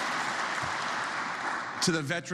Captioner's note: applause